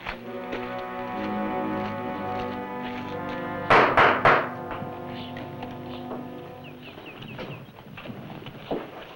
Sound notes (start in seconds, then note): 0.0 dramatic music; 3.8 door knock